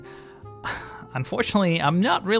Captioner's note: sighs